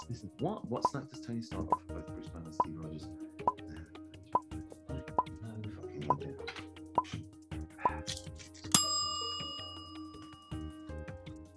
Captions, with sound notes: This is what? What snack does Tony? (mumbles softly) (timer dings)